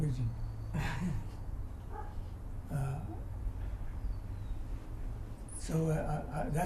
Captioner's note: laughs